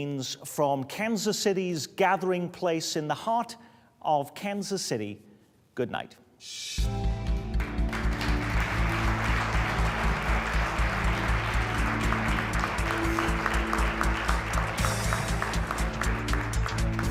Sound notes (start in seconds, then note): 7.5 applause